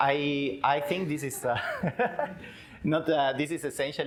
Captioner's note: laughs